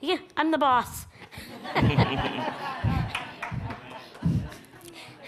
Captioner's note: all laugh